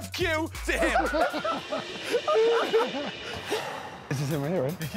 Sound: laughter

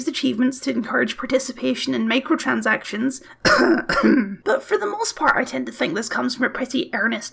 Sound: cough cough

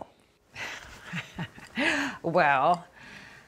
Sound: laughter

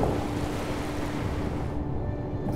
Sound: wave crashes

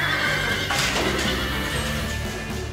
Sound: horse neighs; thud

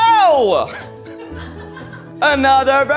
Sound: people laughing

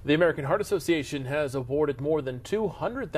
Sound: voiceover

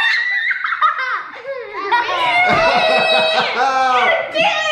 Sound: laughing

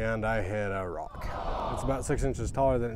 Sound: audience sounds disappointed

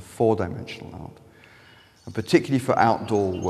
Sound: birds chirping

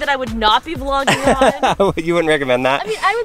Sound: light laughter

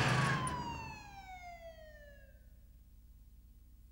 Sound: motorcycle revs, sirens

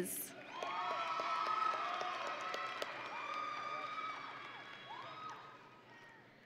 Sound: audience and graduates cheering

